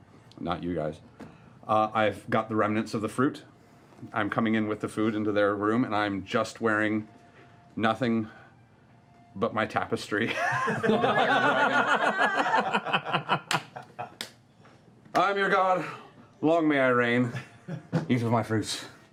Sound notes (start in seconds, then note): 10.2 laughter